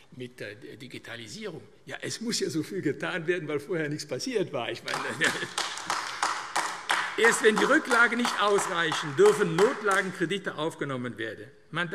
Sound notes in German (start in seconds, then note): 4.8 Beifall AfD